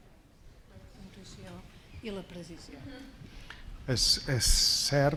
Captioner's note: speaking spanish